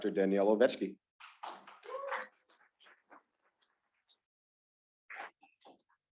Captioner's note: students clapping